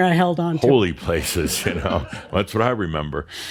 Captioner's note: laughter